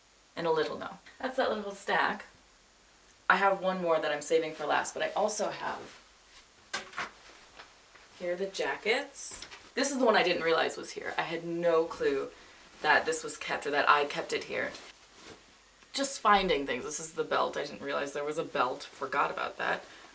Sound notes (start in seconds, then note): 6.7 hanger clinks